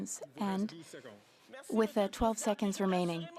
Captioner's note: speaking French